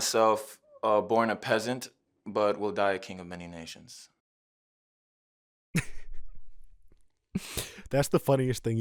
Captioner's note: laughing at the ridiculousness